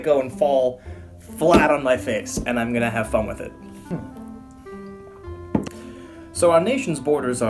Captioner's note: hits table